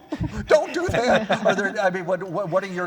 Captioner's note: laughter